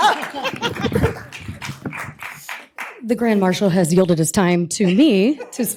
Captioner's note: cheers and applause